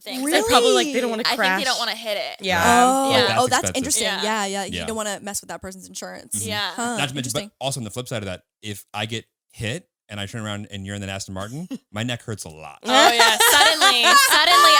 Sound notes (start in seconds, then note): 12.8 all laughing